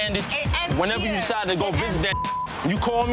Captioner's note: beep